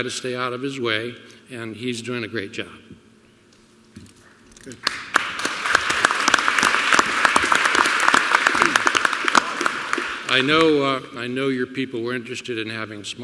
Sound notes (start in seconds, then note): 4.8 applause